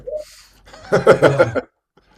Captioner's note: laughs